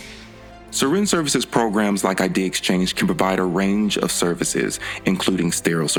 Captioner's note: voiceover